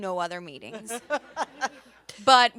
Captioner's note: everyone laughs